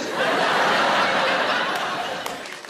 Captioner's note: audience laughing